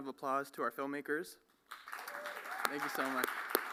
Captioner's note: applause